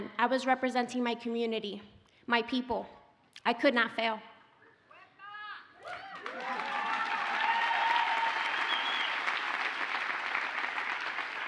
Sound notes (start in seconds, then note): 5.8 audience cheers and applauds